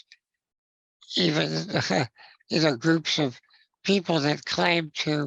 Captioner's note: chuckles